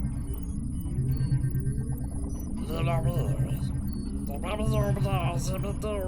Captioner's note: none